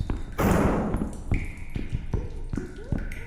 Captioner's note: sound of a beer keg exploding